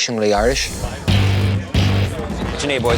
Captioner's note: chatter